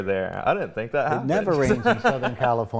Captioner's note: laughs